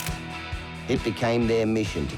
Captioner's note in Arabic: نقرة مصراع الكاميرا; موسيقى روك مبهجة